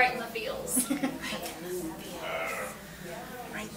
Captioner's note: laughs